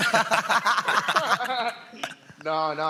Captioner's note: they laugh